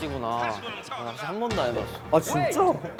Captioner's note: excited